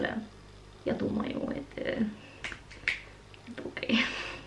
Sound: Russian

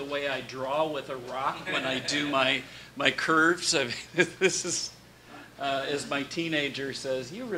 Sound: laughs

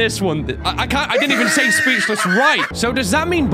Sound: idiot laughing

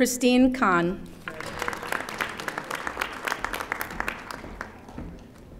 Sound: audience applauding

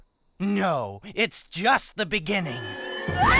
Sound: all screaming

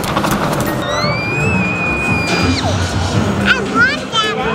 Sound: squealing with joy

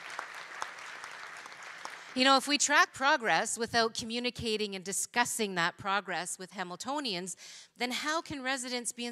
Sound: applause

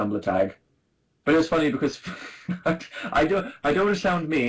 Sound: laughs

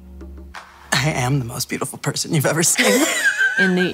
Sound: both laugh

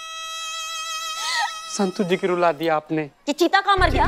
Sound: sobbing

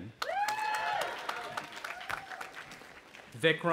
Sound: audience applauding and cheering

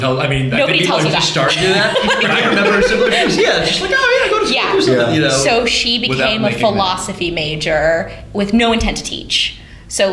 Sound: laughter

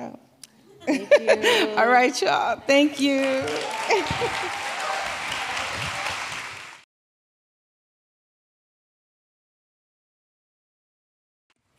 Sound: applause

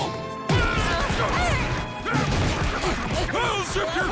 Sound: yelling

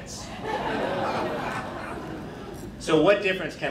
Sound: crowd laughing

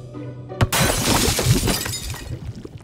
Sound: glass breaks

